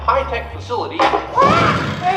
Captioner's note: Kermit screams